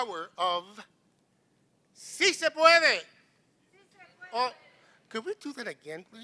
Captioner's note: non-english speech